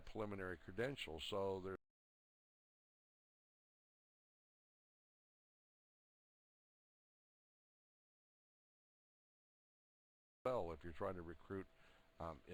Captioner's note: audio drops